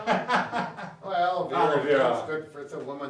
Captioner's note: laughs